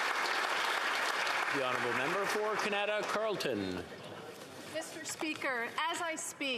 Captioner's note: applause